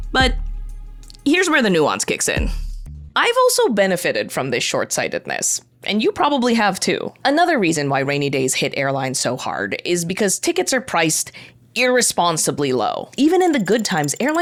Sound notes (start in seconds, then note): none